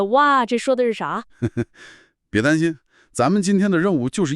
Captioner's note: laughs